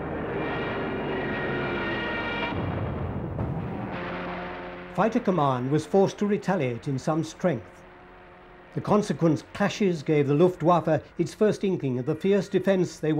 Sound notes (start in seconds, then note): 2.5 bombs booming